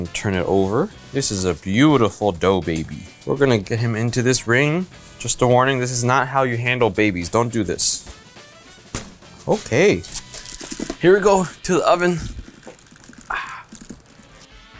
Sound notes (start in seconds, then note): none